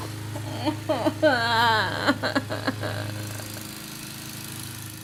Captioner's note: lawnmower sounds outside